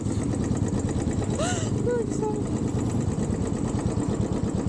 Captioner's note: laughing